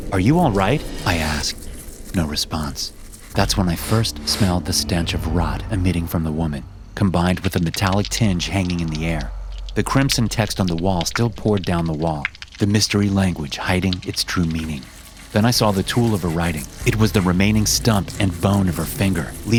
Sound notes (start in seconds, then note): 9.1 dripping and squelching